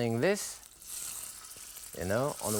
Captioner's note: oil sizzles